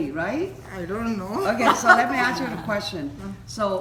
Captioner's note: laughs